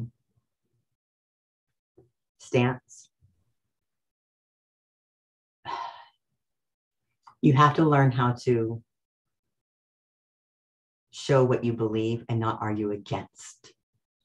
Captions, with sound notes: (sighs) you have to learn how to show what you believe and not argue against--